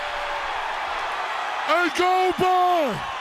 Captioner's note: crowd cheering